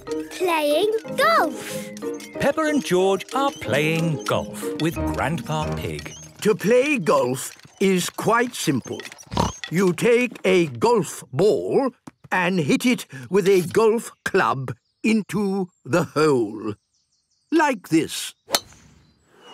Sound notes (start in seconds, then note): 9.3 snort